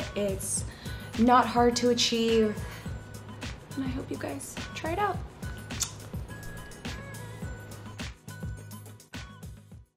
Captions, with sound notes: It's not hard to achieve, and I hope you guys try it out. [blows kiss]